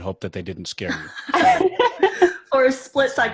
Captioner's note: laughing